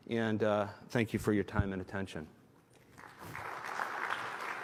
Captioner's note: applause